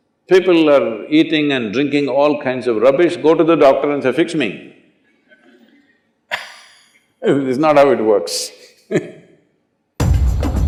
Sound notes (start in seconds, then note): 8.9 laughs